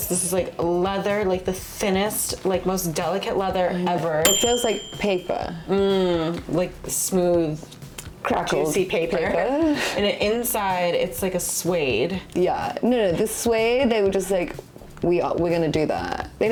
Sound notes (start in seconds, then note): 4.2 bell dings